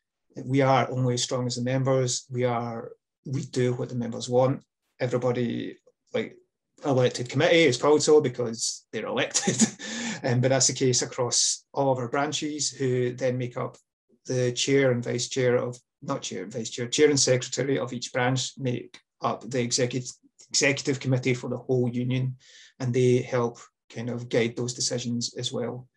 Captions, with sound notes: We are only as strong as the members. We do what the members want. Everybody on the elected committee, it’s called so because they’re elected, [laughs] but that’s the case across all of our branches, who then make up the chair and vice-chair of – not chair and vice-chair. Chair and secretary of each branch make up the executive committee for the whole union, and they help guide those decisions as well.